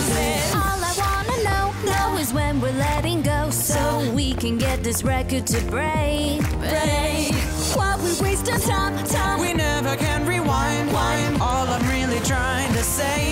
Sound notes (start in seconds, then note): 10.0 wind